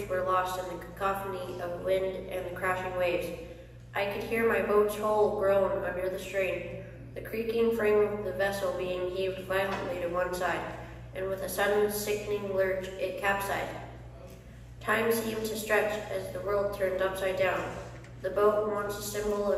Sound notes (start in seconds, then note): none